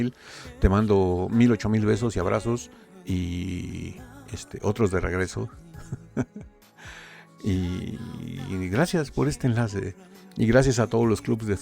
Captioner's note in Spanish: risas